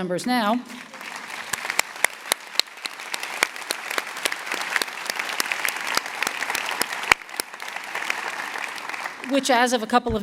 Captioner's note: applause